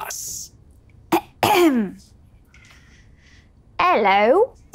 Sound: clears throat

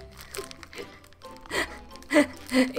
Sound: laughs

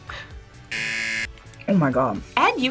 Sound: buzzer

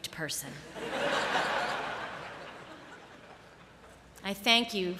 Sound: laughter

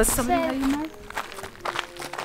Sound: footsteps crunching

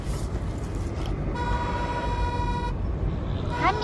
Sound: car horn honking

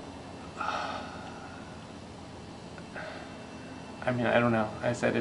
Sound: sigh

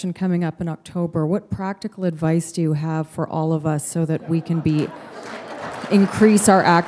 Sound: laughter

